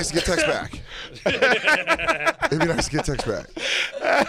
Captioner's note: laughter